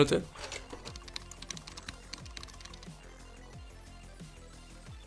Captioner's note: keyboard clicks